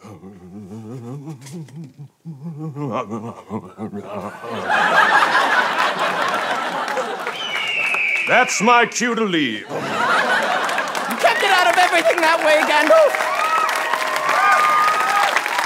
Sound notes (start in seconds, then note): 7.7 eagle call